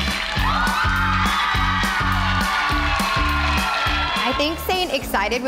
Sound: girls cheering

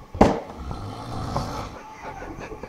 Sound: snoring like a fucking chimney; laughing

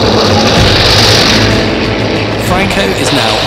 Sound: planes roaring

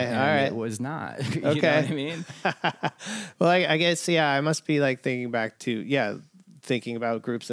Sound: laughter

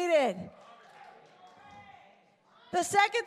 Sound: congregation responding

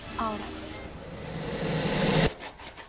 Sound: distorted buzz

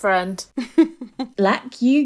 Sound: laughing

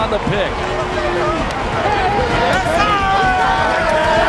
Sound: cheering

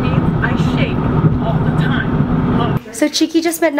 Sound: voice on radio

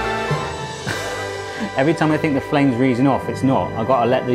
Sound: laughs

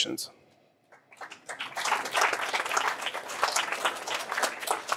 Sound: applause

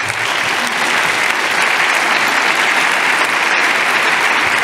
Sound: loud applauding

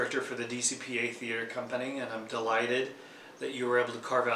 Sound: none

